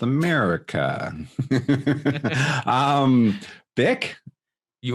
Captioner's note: laughing